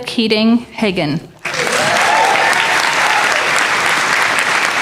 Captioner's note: applause